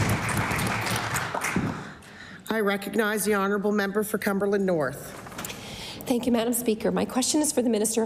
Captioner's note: applause